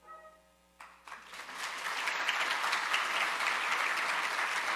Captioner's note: audience applauding